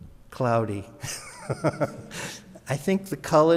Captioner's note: laughs